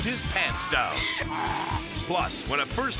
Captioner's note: donkey braying